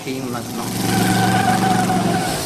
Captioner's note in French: Vrombissement